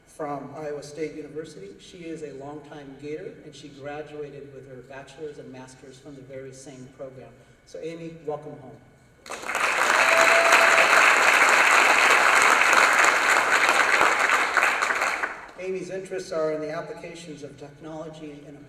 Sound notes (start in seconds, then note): 9.2 applause